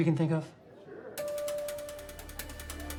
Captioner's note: group chattering; soft dramatic music